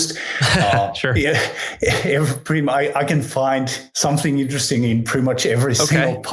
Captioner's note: laughs